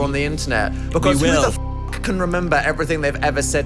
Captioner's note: beep